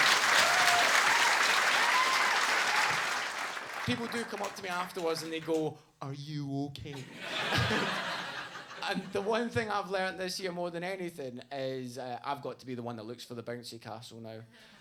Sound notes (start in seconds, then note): 6.9 audience laughs